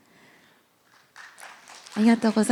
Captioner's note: applause